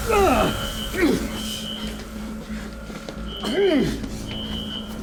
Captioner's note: Malkam groaning in pain